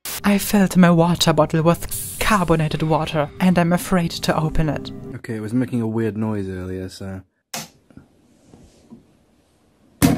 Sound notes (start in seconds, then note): 1.8 water fizzing; 7.6 plastic snap